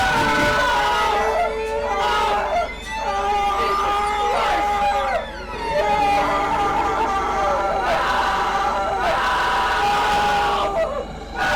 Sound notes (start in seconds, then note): 5.8 Tom screaming